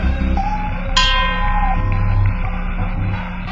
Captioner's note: ding